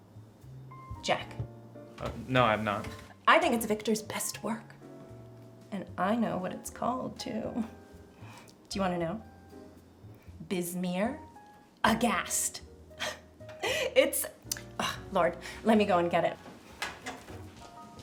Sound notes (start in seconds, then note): 12.5 chuckles; 14.1 scoffs